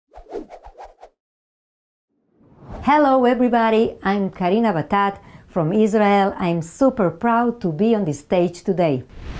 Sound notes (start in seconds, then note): 0.0 graphics whooshing; 2.2 logo whooshing; 9.1 graphics whooshing